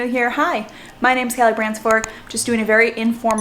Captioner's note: mouse clicks